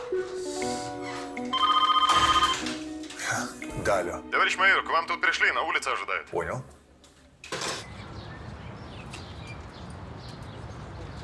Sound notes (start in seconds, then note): 1.4 phone rings